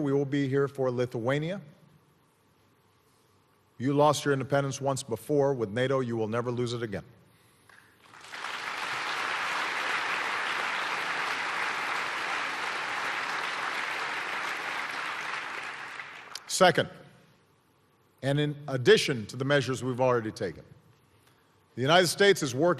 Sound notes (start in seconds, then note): 8.0 applause